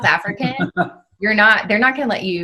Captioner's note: male speaker chuckles